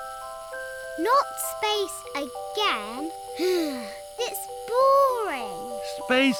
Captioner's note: sighs